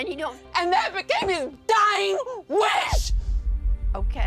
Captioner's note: shouting